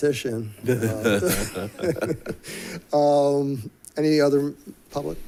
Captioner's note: board members giggling